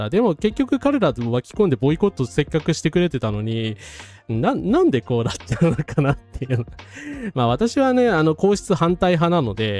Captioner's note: laughing